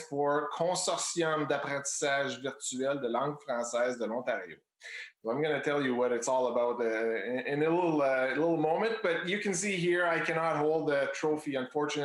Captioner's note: speaking in Foreign Language